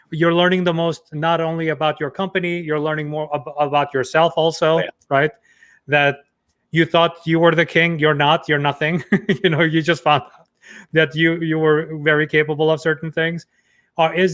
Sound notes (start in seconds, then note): 9.3 laughing